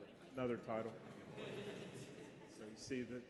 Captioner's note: laughing